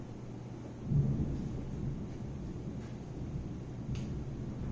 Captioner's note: thunder